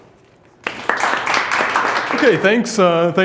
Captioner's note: audience applauds